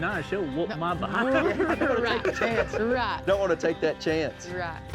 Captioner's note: laughs